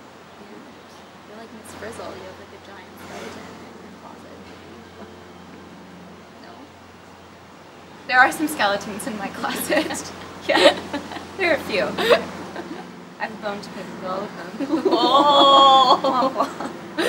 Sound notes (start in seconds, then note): 9.4 laughing